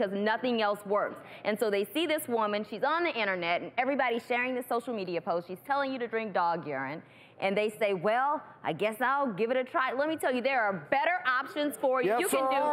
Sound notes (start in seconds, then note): none